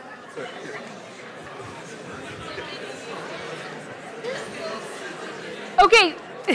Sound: indistinct chatter

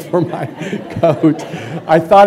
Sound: laughter

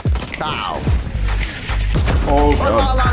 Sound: guns firing

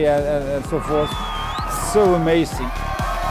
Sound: crowd cheering

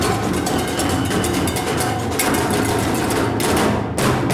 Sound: whistle blows

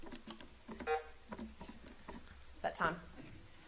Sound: buzzer sounding

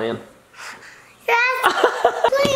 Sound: laughs

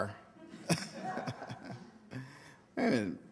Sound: audience laughter

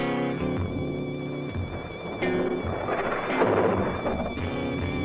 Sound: thunder rumbling

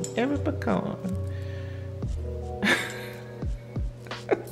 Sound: laughing

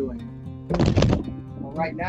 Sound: object crashing

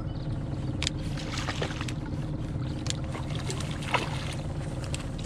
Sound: fish splashing

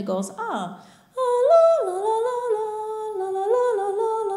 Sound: humming

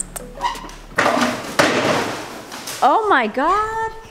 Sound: crashing

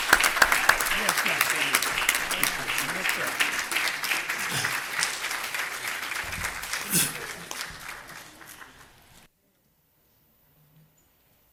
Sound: applause

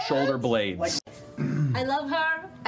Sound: clears throat

